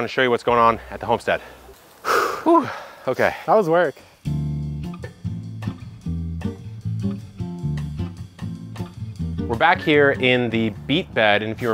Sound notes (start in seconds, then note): 2.0 exhales; 4.2 jazz music